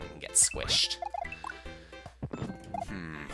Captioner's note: breathing